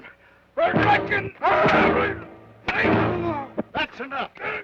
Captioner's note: Joshua groans